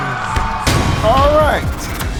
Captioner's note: audience cheering; dramatic thudding; film reel rewinding